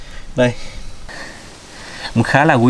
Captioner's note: leaves rustling and crickets chirping